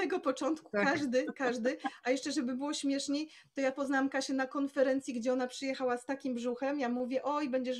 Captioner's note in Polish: śmiech